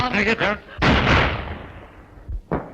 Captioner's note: gun firing